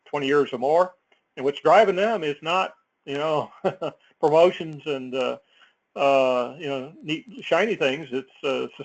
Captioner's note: laugh